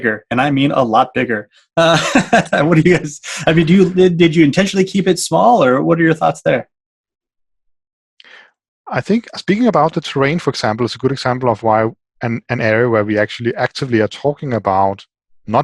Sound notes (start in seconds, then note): 1.8 laughing